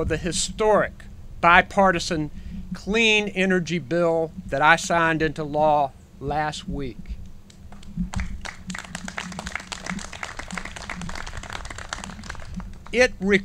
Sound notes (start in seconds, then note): 8.1 clapping